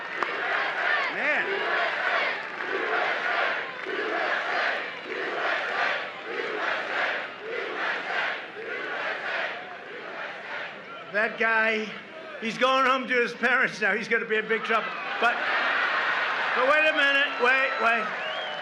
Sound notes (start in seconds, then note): 1.4 applause; 9.2 chanting